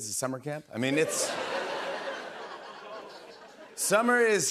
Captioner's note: laughter